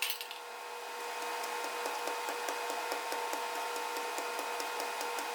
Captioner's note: pestle tapping